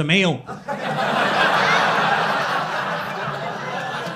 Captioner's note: crowd laughing